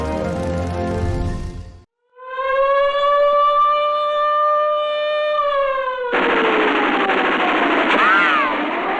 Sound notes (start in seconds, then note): 2.0 siren blaring; 6.1 gunfire